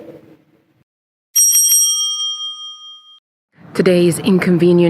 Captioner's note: bell rings